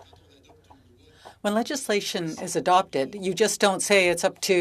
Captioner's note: speaking French